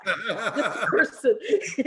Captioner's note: laughs